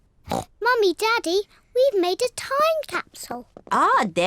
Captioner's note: oinks